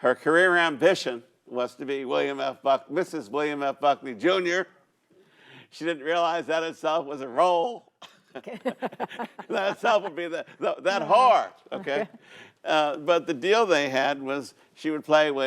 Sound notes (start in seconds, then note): 8.3 laughs